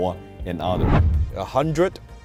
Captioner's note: air whooshing